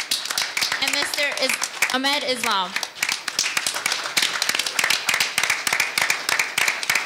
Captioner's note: audience applauding